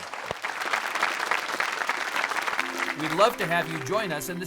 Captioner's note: applauding